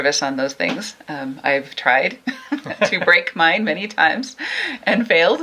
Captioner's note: laughs